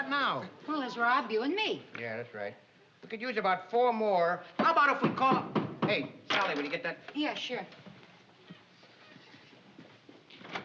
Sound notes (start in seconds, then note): 4.6 knock on door